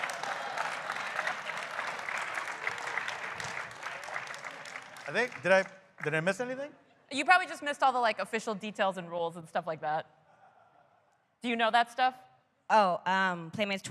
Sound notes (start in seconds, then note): 2.4 laughter; 4.9 applause